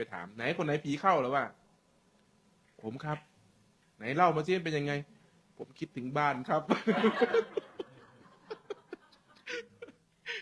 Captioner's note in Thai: เสียงหัวเราะ